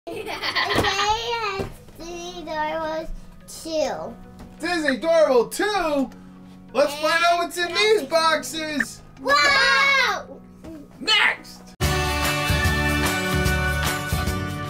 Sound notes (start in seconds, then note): 9.2 shouts excitedly; 11.8 upbeat music